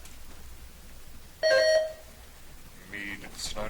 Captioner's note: buzzer chimes